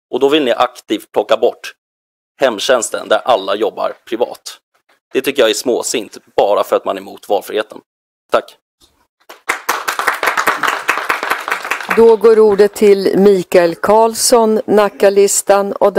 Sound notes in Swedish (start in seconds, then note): 9.2 Applåder